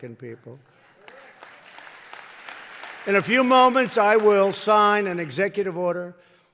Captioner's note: applause